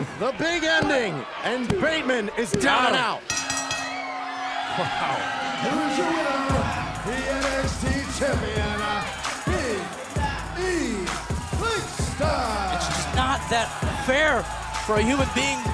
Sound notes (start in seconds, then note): 3.2 bell ringing; 4.6 crowd cheering